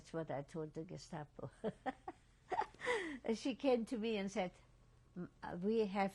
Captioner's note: laughs